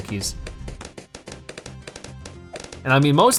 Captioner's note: weapons firing